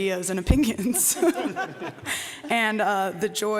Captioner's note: laughter